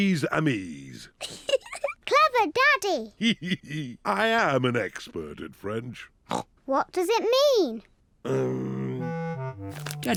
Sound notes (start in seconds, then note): 1.2 giggles; 3.2 giggles; 6.6 snorts